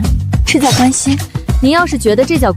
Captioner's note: sighs